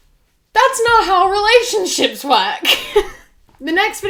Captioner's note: laughs